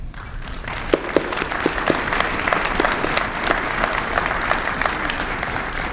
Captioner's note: applause